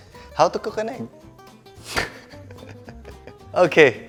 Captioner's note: chuckles